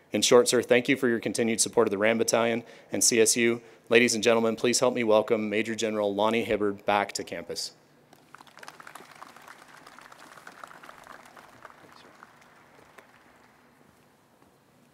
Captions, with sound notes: In short sir, thank you for your continued support of the RAM battalion and CSU. Ladies and gentlemen, please help me welcome Major-General Lonnie Hibbard back to campus. (crowd applauding)